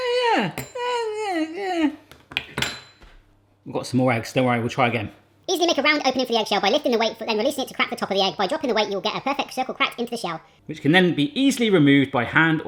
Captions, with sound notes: Ah yeah. (moaning) I've got some more eggs, don't worry we'll try again. (fast forward talking) Which then can be easily removed by hand